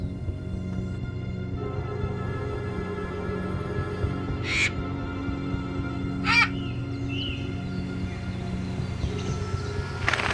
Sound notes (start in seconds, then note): 6.2 bird caws